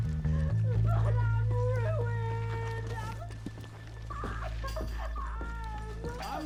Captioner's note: continues sobbing